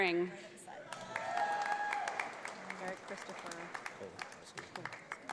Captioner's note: audience applauds